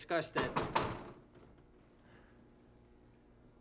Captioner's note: knocking